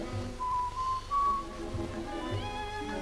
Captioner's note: Chris whistling